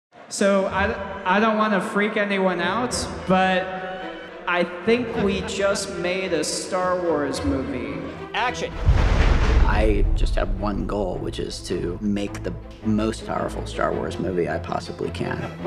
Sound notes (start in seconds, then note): 3.2 strings music; 8.7 explosion